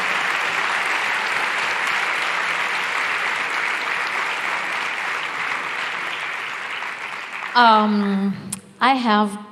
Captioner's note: speaks in Italian – not transcribed